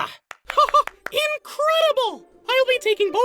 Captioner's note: laughs